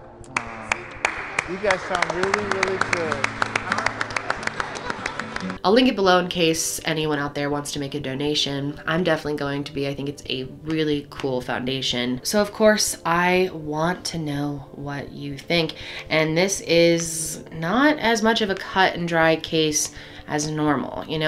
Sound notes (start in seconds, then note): 3.3 children clapping